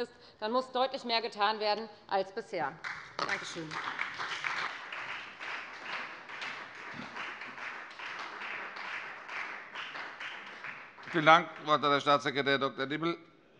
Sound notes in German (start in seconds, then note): 2.8 Beifall bei der FDP und der SPD